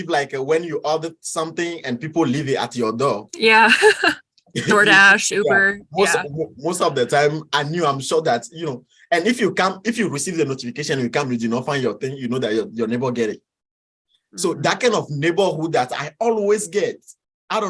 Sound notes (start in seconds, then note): 3.7 chuckles